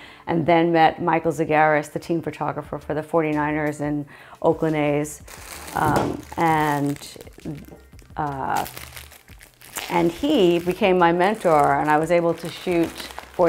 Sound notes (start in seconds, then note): 5.1 plastic bag rustling